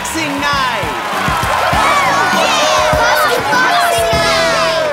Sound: cheering

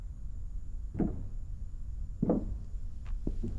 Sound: thud from back room; knocking sounds

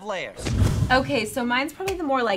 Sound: air whooshing

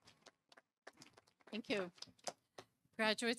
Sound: audience applauding

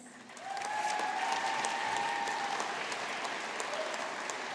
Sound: audience applauding

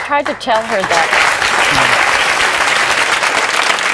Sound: audience clapping

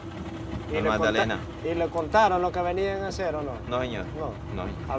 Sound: speaking in foreign language

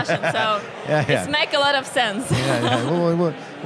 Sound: laughs

